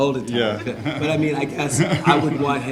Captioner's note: laughing